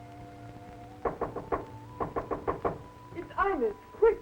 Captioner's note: knocking on door